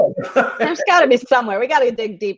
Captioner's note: laughs